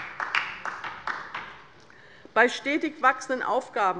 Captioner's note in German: Beifall bei der LINKEN